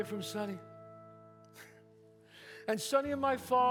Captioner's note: scoffs